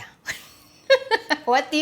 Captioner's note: laughs